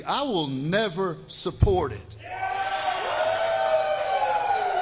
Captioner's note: applause